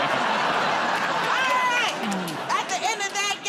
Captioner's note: laughter